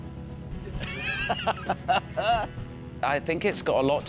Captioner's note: chuckling